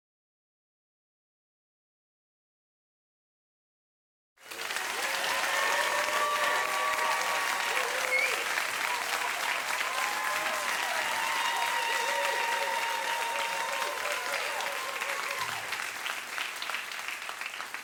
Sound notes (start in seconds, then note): 11.6 applause